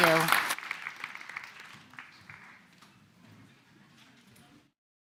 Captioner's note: applause